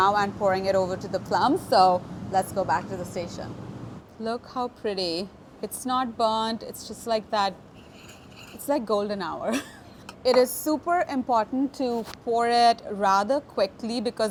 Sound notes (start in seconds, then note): 9.5 chuckles